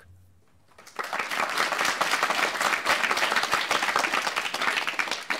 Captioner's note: applause